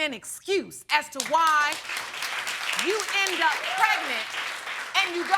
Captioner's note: audience applauding